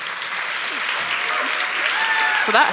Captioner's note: applause